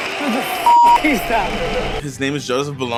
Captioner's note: crowd cheers; beep